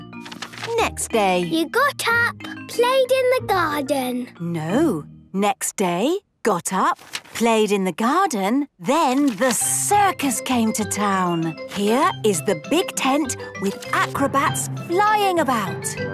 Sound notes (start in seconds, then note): none